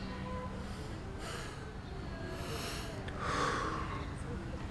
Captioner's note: exhaling deeply